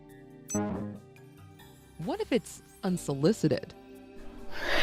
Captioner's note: digital beep